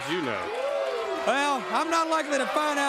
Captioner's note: crowd cheering